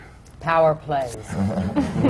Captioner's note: laughter